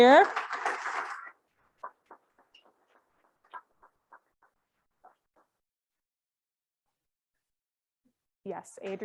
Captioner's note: applause; silence